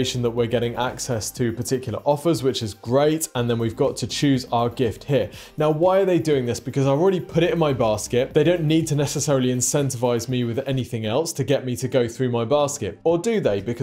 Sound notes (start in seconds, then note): none